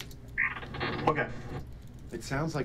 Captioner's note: digital noise